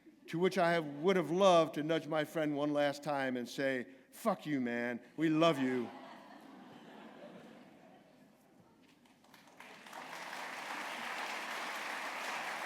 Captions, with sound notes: To which I have would have loved to nudge my friend one last time and say, "Fuck you, man. We love you." [LAUGHTER] [APPLAUSE]